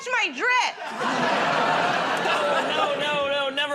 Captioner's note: laughter